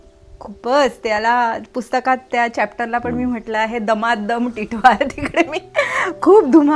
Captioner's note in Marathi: हास्य